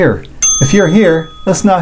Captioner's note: bell chimes